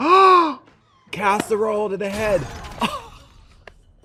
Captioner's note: Trixie gasps; casserole dish shatters; Katya laughs and claps